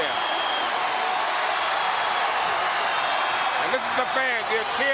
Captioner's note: audience cheering